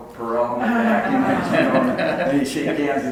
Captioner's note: audience laughs